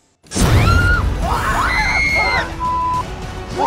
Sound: riders screaming

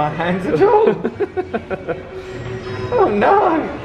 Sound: laughs

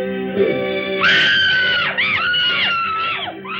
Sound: screams

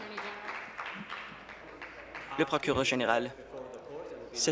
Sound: applause

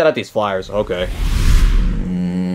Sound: air whooshing; Mario groaning

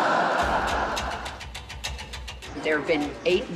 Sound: laughter

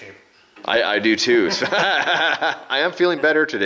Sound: laughs

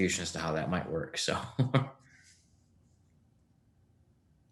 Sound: chuckles

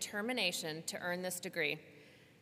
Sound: none

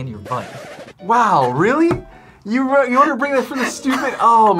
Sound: record scratch

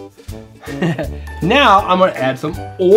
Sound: laughs

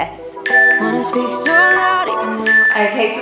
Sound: alarm beeping

